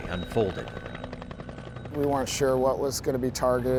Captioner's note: helicopter flying overhead